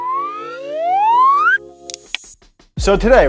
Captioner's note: low to high pitched sound